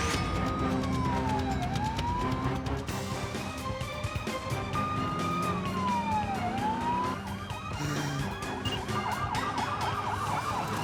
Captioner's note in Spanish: ruido de sirenas